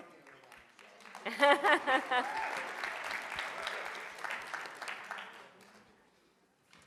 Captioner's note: audience applauds; laughs